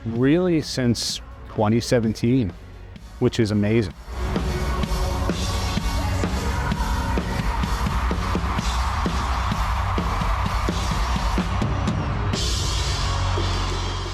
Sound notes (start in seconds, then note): 3.9 drums playing; 4.2 crowd cheers